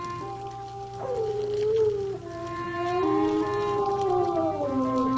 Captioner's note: animal howling